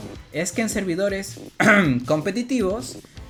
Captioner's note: cough